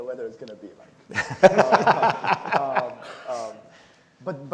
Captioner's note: laughs